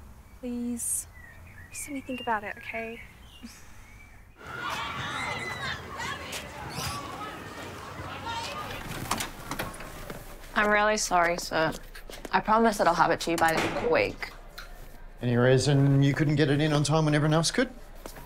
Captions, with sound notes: - Please? - Just let me think about it, okay? (children shouting) (door opens) - I'm really sorry, sir. I promise that I'll have it to you by the end of the week. - Any reason you couldn't get it in on time when everyone else could?